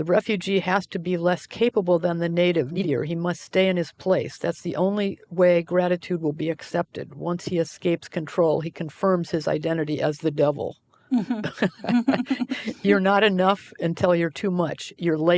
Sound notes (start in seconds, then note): 11.1 laughing